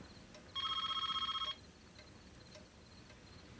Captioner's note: phone rings